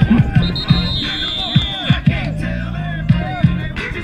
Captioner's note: whistle blowing